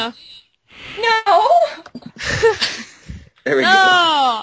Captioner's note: laughter